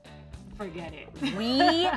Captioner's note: laughs